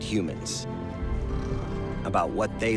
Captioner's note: sailors snoring